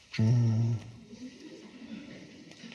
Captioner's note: moans